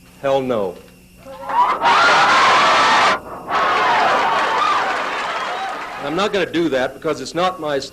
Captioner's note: cheers